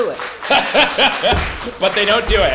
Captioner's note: audience applauds; laughs